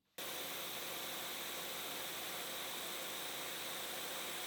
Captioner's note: machine whirring